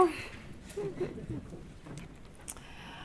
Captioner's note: audience laughs